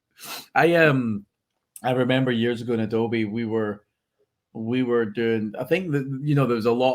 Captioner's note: laughs